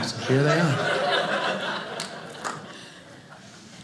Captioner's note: audience laughing